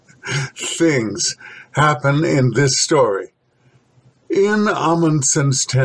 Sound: heh heh heh

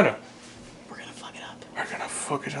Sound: whisper

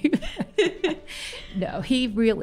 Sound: laughter

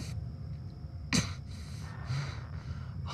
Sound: pained grunt

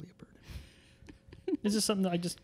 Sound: laughs

